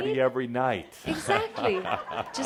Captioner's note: Adamus chuckles